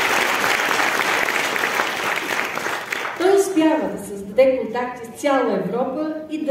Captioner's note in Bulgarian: аплодисменти